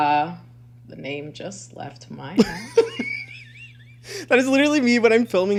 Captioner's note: laughs